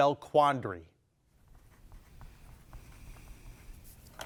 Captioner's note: pencil scratching